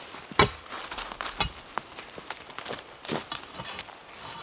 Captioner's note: tool thumping